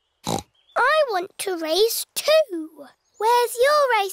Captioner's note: snorts